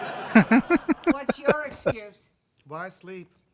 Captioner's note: laughing